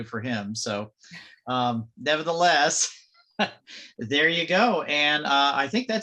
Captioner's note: chuckles